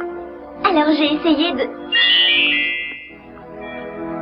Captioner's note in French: son de clochettes